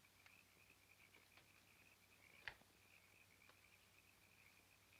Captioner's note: frogs croaking continues